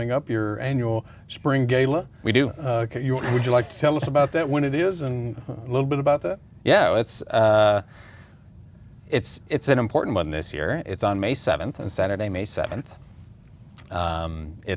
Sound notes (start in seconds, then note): 3.1 laughs